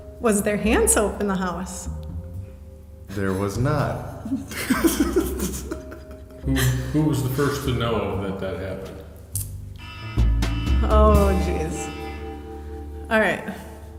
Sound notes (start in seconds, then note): 3.1 laughing; 9.8 alarm ringing